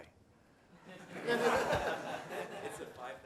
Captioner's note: laughter